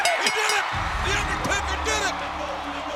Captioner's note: bell rings